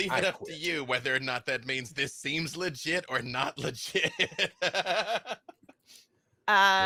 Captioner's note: laughing